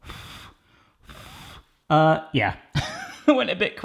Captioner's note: blowing lightly